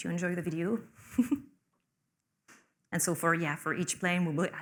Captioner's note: laughs